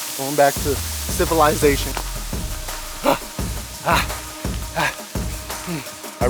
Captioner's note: running